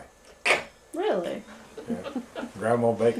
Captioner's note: laughter